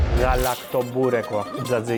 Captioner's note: in Greek